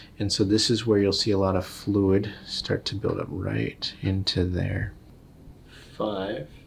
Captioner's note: none